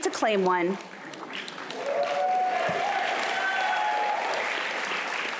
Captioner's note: applause